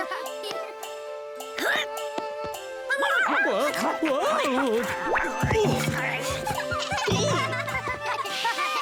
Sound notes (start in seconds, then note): 2.7 barks and growls; 6.2 kitten laugh